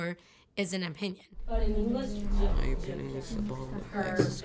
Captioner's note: students chatting quietly